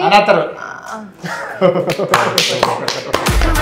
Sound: laughing

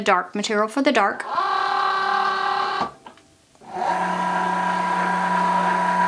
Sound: Cricut machine whirring

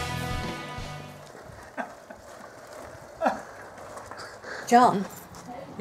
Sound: laughter

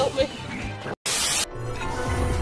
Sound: static

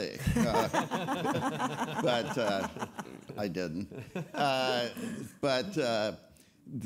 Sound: all laughing

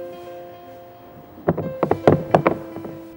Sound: paint can rattling

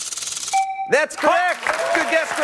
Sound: chime

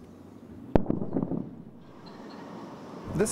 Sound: sound of jet flying overhead and loud sonic boom

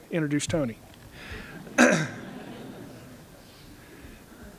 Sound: laughter

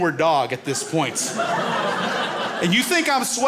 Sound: crowd laughs

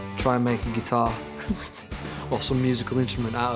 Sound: laughs

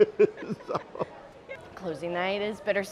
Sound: laughing

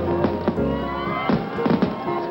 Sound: crowd cheering; cracking, popping

